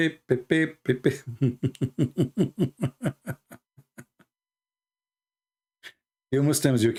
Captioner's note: Ketawa